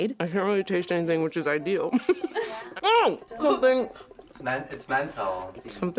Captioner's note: laughs